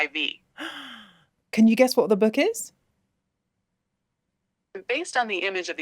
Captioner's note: gasps